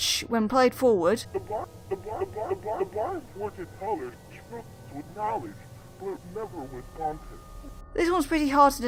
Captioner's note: audio played forward, stuttering and glitching